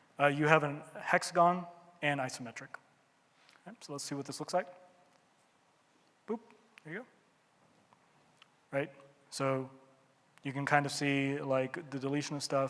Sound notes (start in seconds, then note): none